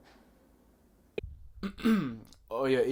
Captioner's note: juror clears throat